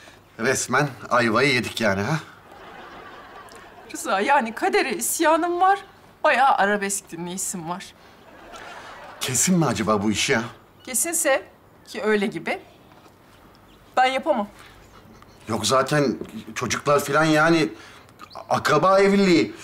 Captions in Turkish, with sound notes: Resmen ayvayı yedik yani ha? (Gülme efekti) Rıza yani, kadere isyanım var... ...bayağı arabesk dinleyesim var. (Gülme efekti) Kesin mi acaba bu iş ya? Kesinse... ...ki öyle gibi. Ben yapamam. Yok zaten, çocuklar falan yani... ...akraba evliliği.